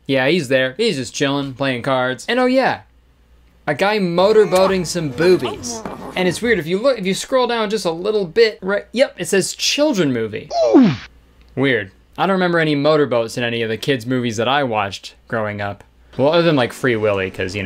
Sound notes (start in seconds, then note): 10.6 shocked gasp